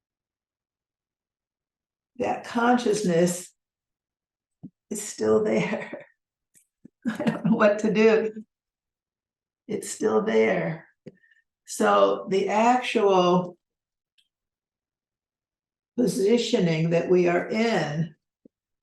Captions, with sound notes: That consciousness is still there. (laughs) I don't know what to do. (chuckles) It's still there. So the actual positioning that we are in,